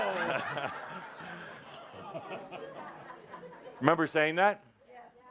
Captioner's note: laughter